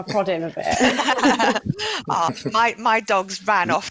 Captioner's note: laughter